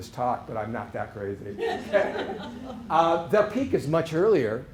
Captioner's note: laughter